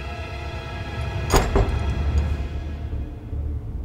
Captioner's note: door clangs; ominous music